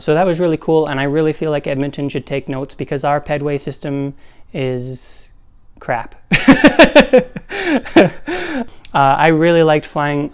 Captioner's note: laugh